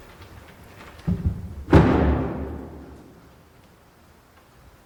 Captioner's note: lid thuds